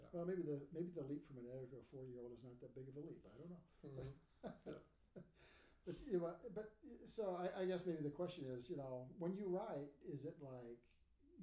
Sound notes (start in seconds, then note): 4.4 laughing